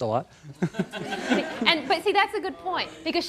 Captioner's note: laughing